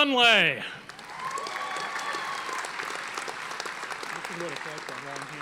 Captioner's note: audience applauding